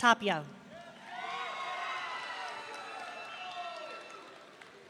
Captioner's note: audience cheering